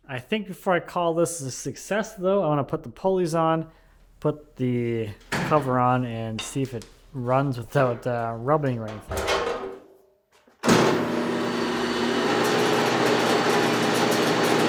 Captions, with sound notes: I think before I call this is a success, though, I wanna put the pulleys on, put the cover on, and see if it runs without rubbing anything. (metal clanking) (machine humming)